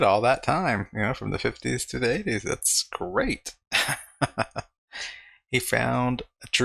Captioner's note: laughing